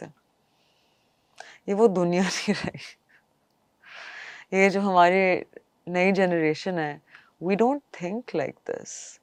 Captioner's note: laughter